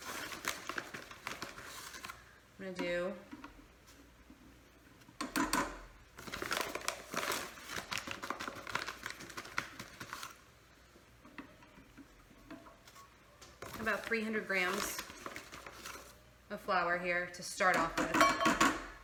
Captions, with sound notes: I'm gonna do (scoop tapping) about 300 grams of flour here to start off with.